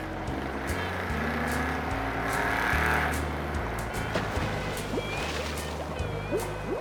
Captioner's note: engine revving; upbeat music